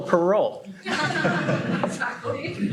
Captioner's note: laughter